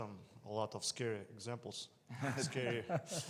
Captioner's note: panelist laughing